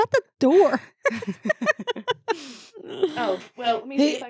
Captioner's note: laughing